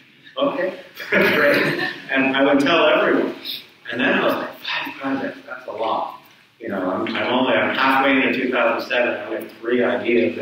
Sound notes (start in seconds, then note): 1.0 audience chuckles